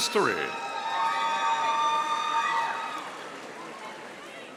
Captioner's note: audience cheering